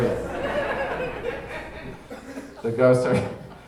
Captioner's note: audience laughing